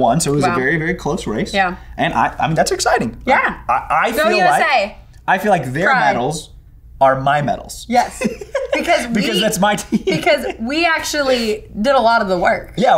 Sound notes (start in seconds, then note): 7.9 laughing